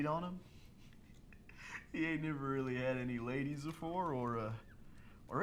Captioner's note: laughs